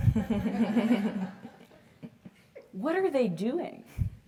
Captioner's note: laugh